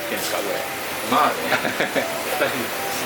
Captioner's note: laughs